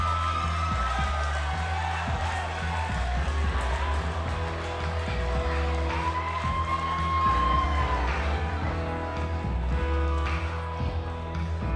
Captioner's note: crowd cheering